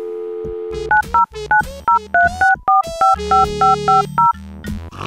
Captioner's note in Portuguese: discando números